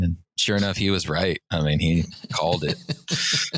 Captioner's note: laughter